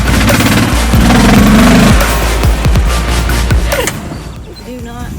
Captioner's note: motor revs